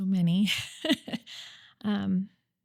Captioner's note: laughs